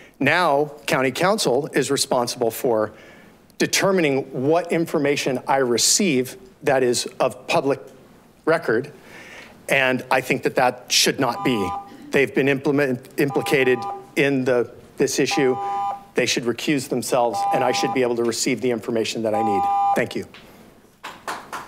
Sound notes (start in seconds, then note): 15.3 buzzer beeping; 19.4 buzzer buzzes